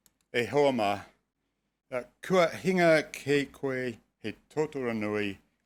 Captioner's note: speaking foreign language